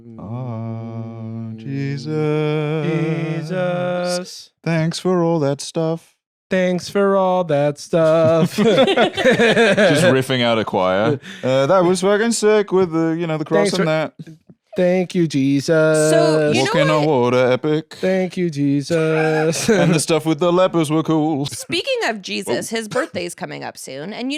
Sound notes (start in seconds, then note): 0.2 harmonizing; 8.0 all laughing